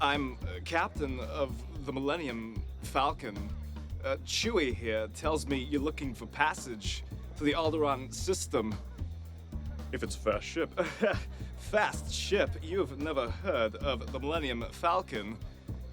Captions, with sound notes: I'm, uh, captain of the Millennium Falcon. Uh Chewie here tells me you're looking for passage to the Alderaan System. If it's a fast ship. (laughs) Fast ship? You've never heard of the Millennium Falcon.